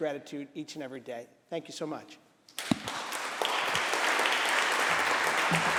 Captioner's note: applause